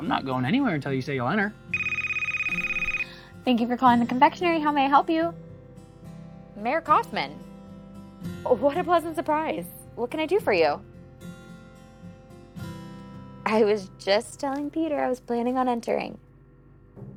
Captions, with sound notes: - I'm not going anywhere until you say you'll enter. (phone ringing) - Thank you for calling The Confectionery. How may I help you? Mayor Kaufman. What a pleasant surprise. What can I do for you? I was just telling Peter I was planning on entering.